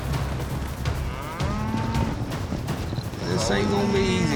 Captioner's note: cattle mooing